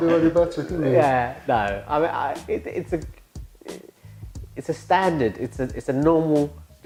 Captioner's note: laughs